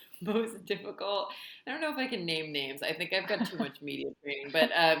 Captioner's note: laughs